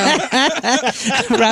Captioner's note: laughing